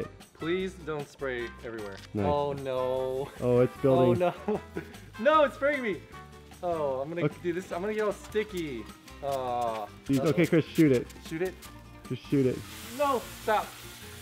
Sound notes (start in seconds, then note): 12.2 extreme Fizzing